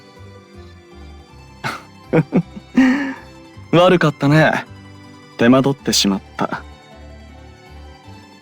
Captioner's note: laugh